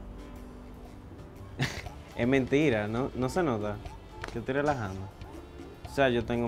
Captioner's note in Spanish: laughs